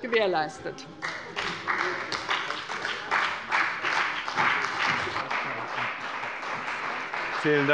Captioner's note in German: Beifall bei dem BÜNDNIS 90/DIE GRÜNEN und der CDU